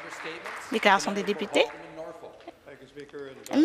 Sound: some Applause

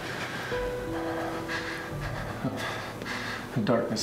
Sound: Alister panting

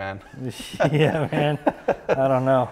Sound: laughs

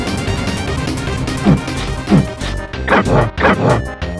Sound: grunt gibberish

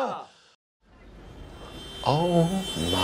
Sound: car horn

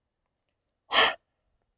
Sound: gasp

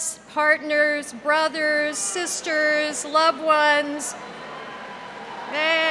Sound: cheers and applause

